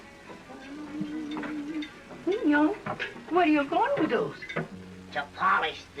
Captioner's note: humming